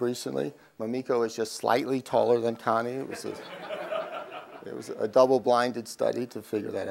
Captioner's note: crowd laugh